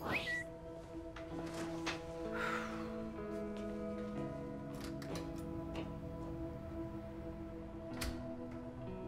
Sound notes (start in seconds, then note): 0.1 tweet whistling; 2.3 sighing; 4.6 door opening and closing